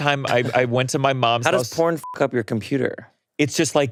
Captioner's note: beeps